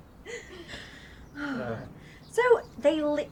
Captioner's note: people laughing; woman sighing